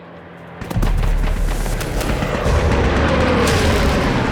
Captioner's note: explosions pop